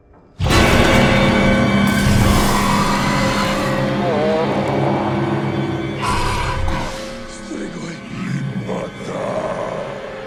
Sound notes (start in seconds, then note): 0.3 dramatic music; 0.4 glass shatters; 1.6 The Patriarch groaning